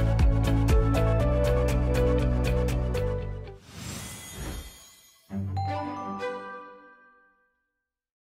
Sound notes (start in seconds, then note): 5.8 chiming